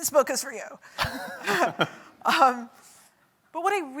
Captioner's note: chuckle